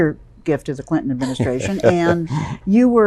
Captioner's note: chuckles